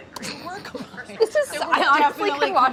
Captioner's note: laughs